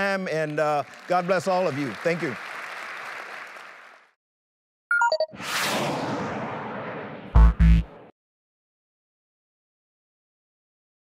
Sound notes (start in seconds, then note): 2.5 applause